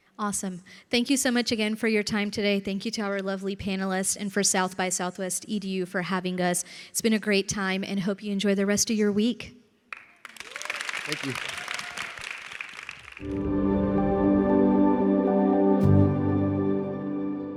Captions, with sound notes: - Awesome. Thank you so much again for your time today. Thank you to our lovely panelists, and for South by Southwest EDU for having us. It's been a great time, and hope you enjoy the rest of your week. (audience applauding and cheering) - Thank you. (gentle music)